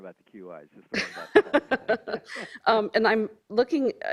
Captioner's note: laughing